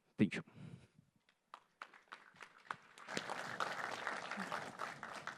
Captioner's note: applause